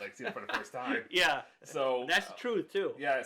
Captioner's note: laughs